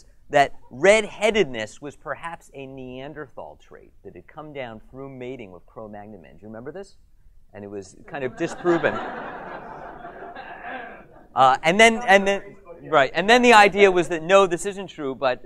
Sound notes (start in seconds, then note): 8.2 audience laughs; 12.4 audience member murmurs